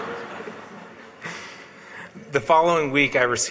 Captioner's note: laughs